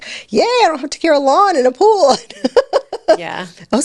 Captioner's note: laughs